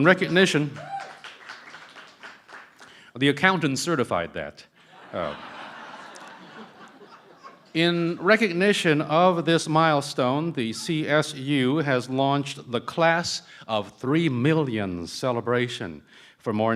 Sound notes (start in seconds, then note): 0.0 cheering & Applause; 4.8 laughter